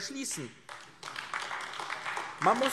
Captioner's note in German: Beifall AfD